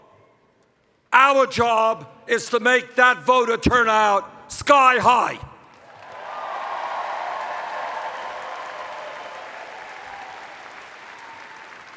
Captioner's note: cheers